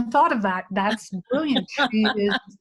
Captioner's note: laughs